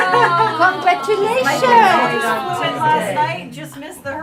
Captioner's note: audience chattering